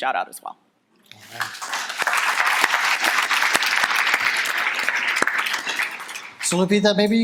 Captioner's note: audience applauding